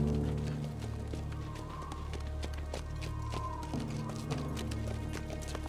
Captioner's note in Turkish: At nalı sesi